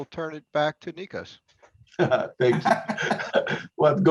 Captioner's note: laugh